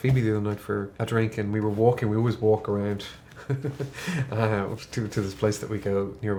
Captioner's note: laughs